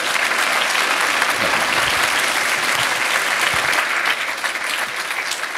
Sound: applause

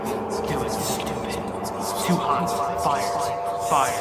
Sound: whispers

